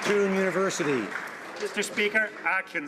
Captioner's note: some Applause